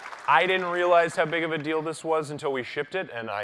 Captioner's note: applause